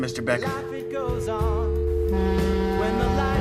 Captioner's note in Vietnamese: còi tàu hụ